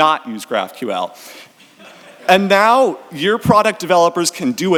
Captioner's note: audience laughs